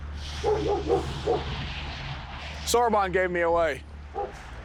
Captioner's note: Sorbon barking